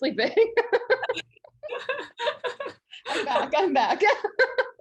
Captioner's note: both laughing